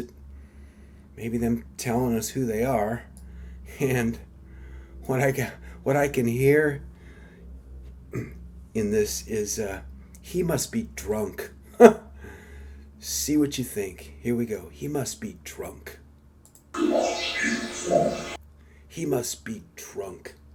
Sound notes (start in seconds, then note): 17.0 disembodied Voice